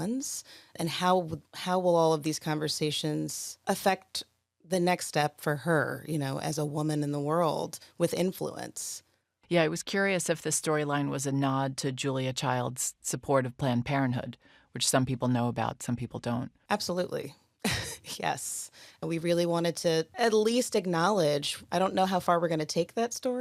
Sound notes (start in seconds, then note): 17.7 chuckles